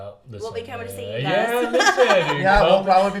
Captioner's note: laughs